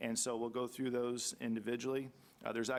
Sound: none

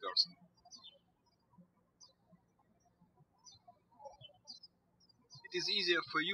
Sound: birds chirping

